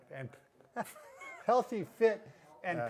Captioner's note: laughs